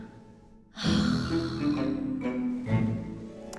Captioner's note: sighs